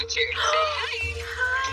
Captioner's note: gasps